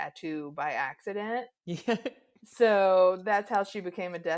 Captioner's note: chuckles